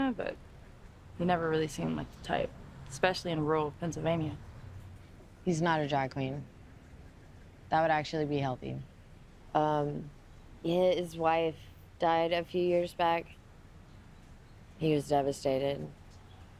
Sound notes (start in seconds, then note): none